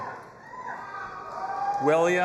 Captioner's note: audience applauding and cheering